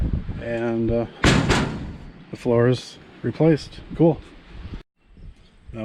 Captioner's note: banging